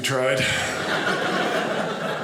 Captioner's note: audience laughing